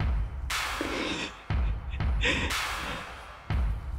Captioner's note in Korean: もれる笑い声